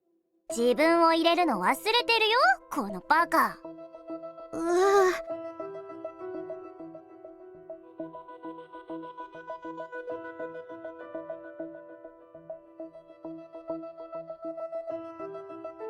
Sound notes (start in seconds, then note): 4.5 sobs